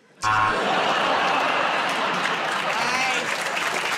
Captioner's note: buzzer; laughter and applause